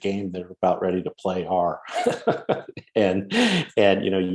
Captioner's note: laughs